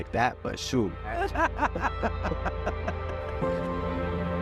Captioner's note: both laughing